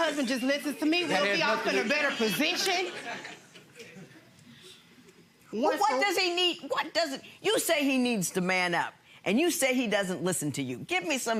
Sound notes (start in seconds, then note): 3.3 audience laughing